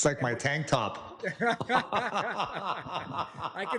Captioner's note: laughter